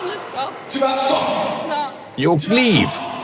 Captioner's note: foreign language